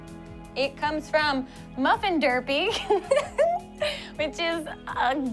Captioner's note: laughs